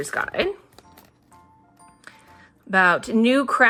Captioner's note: none